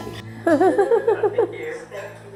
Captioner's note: laughs